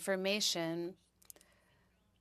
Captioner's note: speaking in French